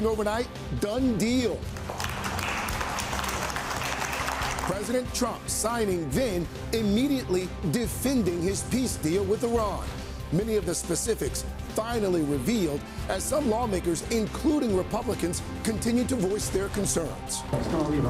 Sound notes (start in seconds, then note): 5.4 applause